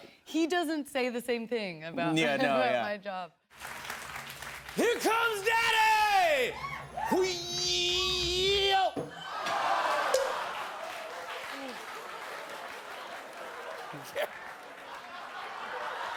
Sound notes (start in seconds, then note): 9.4 audience exclaims; 14.2 laughter